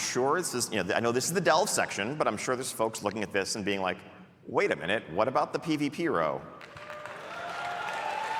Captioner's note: cheering